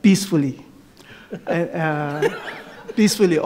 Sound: audience laughs

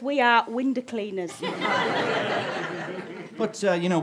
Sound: audience laughter

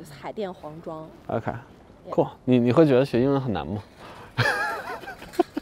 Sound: speaking in foreign language; laughing

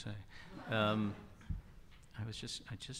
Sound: audience laughter

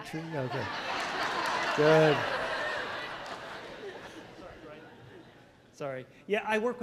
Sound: crowd laughter

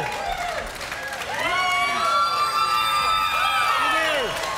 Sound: crowd cheering

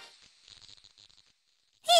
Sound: silence

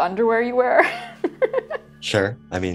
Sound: laughs

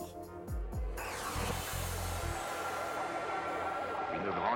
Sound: french dialogue

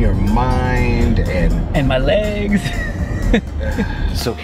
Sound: laughs; sighs

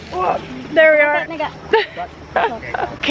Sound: engine revving; laughter

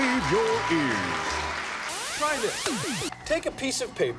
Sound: cheers and applause

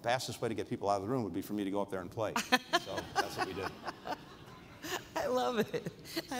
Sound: laughter

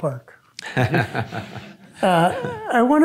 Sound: Rob chuckles

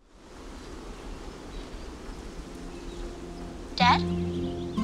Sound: birds chirping

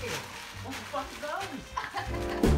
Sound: laughs

